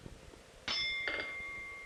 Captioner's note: bell Sound